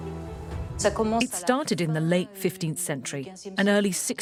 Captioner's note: voiceover